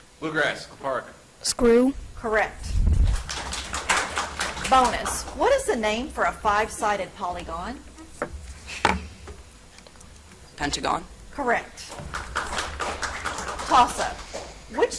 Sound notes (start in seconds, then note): 2.9 audience applauds; 11.8 audience applauds